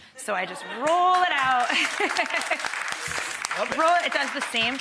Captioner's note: audience applause; woman laughing